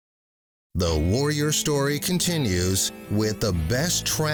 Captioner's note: voiceover